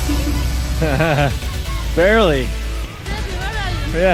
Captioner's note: laughing